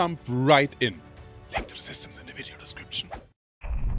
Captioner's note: whispering